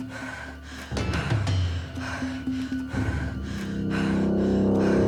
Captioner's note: breathing heavily